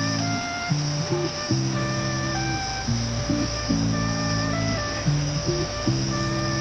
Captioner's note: sizzling sound as onions are added to a hot pan with oil